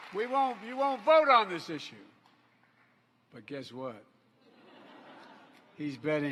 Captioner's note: applause